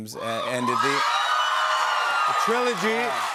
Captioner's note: cheers and applause